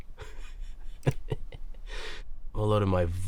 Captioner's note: cackling